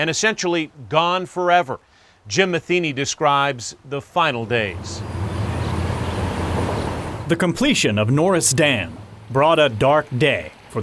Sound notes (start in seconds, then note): 4.5 birds chirping